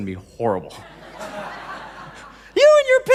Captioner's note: laughing